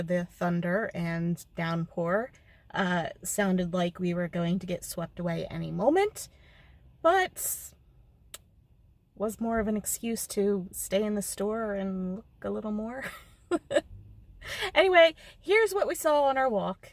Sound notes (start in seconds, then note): 13.5 nervous Laugh